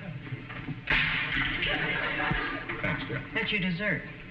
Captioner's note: audience laughing; cracking